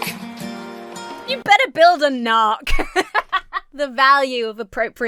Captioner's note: Emma laughs